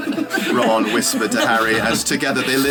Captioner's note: readers laughing